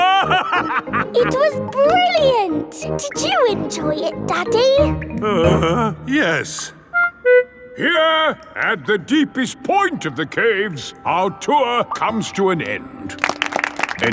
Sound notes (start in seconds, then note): 0.0 laughing; 5.1 groans